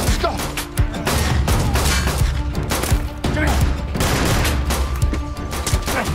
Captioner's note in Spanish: Disparos